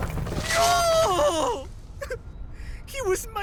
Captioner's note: sob